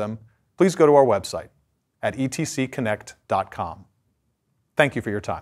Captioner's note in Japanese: 英語